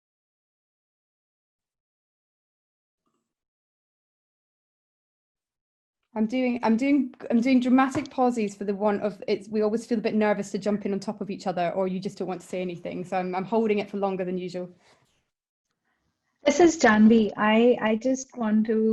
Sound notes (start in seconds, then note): 1.1 silence